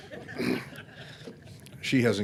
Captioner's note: audience laughing